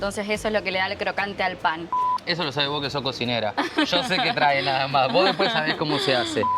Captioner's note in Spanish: risas